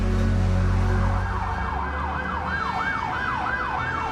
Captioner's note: siren blaring